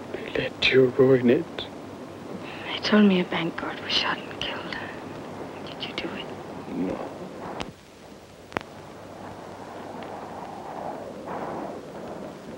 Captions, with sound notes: I let you ruin it. - They told me a bank guard was shot and killed. Did you do it? - No, (murmurs).